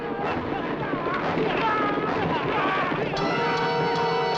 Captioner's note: hooves clattering